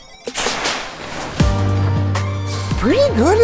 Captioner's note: cannon whooshing